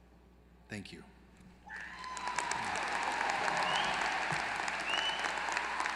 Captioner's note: applause